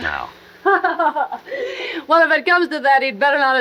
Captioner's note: laughs